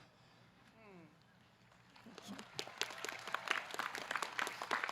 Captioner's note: audience clapping